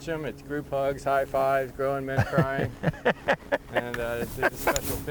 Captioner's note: laughs